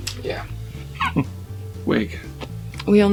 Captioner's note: laughs